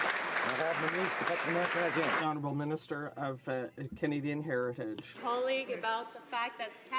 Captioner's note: some Applause